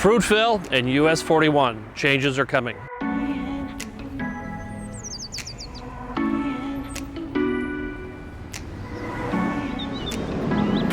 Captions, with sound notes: - Fruitville and US 41, changes are coming. (calm music) (birds chirping)